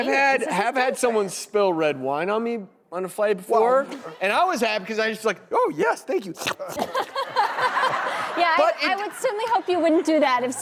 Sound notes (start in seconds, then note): 6.2 slurps; 6.8 audience laughing